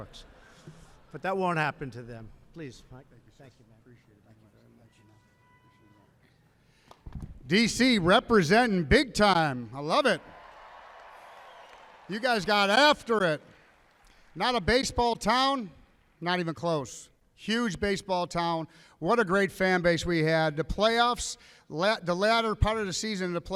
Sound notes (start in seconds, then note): 0.1 laughter; 10.2 applause